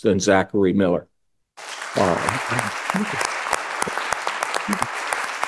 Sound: audience clapping

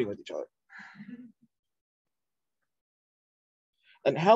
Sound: laughter

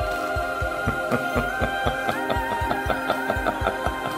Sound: laughs evilly

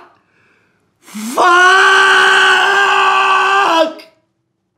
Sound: broken sob

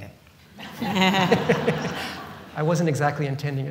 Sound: laughter

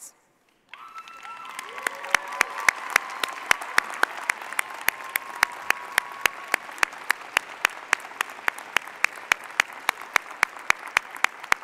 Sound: cheers and applause

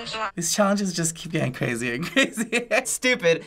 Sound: laughs

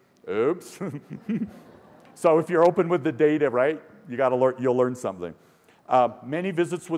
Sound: laughter

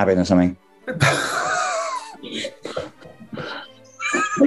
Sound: sniggering

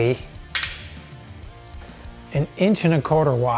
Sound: washer clicking

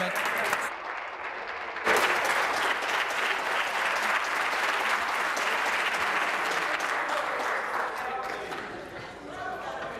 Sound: applause

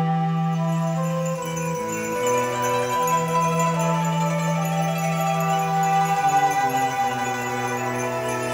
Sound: japanese wind chimes

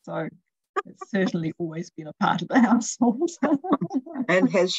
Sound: laughter

